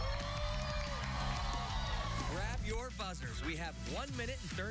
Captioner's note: cheers and applause